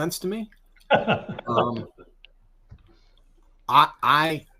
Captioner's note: laughs